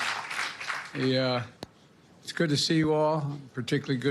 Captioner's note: cheers and applause